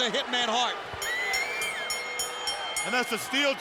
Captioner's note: bell rings